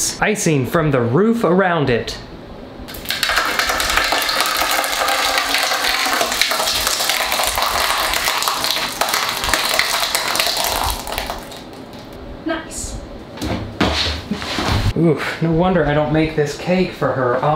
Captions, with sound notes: "Icing from the roof around it." (splashing) Nice, no wonder I don't make this cake for her often.